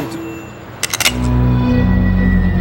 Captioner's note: phone dinging; gun clicking; dramatic orchestral music